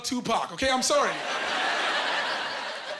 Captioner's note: laughing